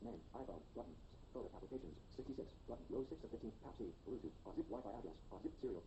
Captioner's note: iPhone announcing highlighted tabs